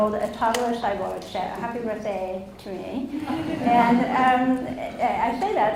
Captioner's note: audience laughs